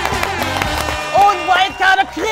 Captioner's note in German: Jubel, Applaus